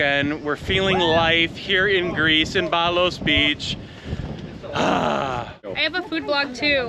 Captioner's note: exhales